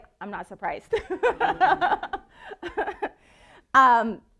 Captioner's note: laughing